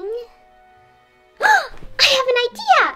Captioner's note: gasp